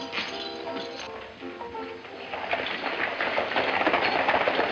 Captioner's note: hooves clopping